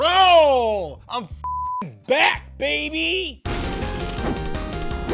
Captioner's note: beep; upbeat music